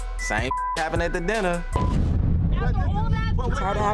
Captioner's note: beeps